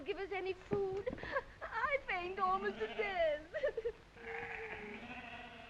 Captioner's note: sobbing